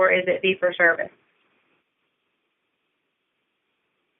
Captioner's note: silence